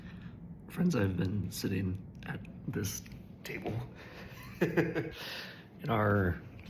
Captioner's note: laughs